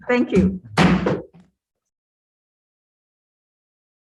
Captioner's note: gavel bangs